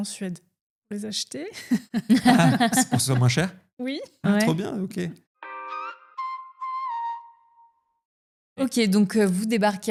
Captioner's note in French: rires